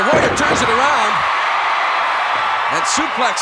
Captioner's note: audience cheering